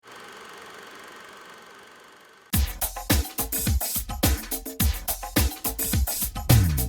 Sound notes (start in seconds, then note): 0.7 camera whirs; 2.5 upbeat music